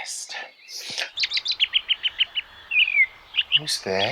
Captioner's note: sound of birdsong